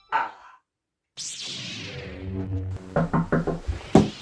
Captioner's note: lightsaber SFX; knock at door